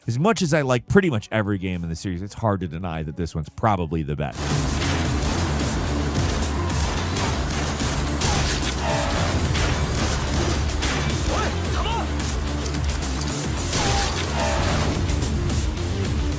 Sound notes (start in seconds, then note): 4.3 guns firing; 7.3 tense music; 10.3 guns firing; 13.8 tense music